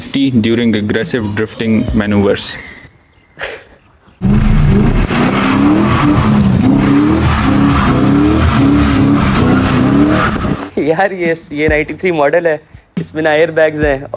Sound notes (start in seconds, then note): 3.4 chuckles